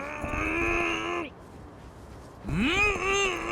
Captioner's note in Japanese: うめき声